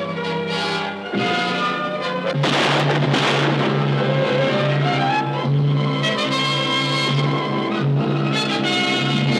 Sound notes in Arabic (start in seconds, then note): 5.0 إطلاق نار